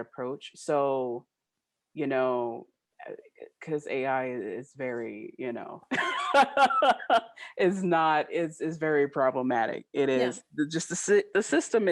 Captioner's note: laughing